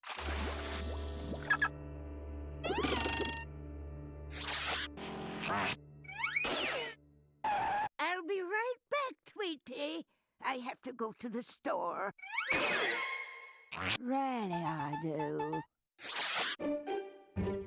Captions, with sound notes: [beeping] [screeching] I'LL BE RIGHT BACK, TWEETY. I HAVE TO GO TO THE STORE. REALLY I DO.